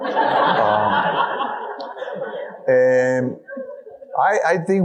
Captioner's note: audience laughing